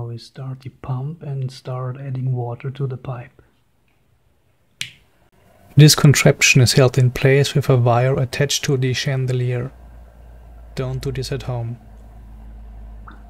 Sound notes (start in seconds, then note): 3.8 click